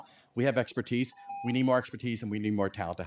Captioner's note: timer tone